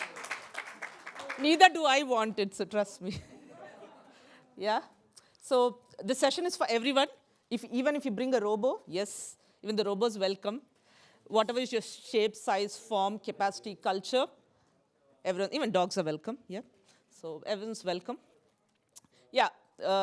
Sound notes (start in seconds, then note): 3.0 laughter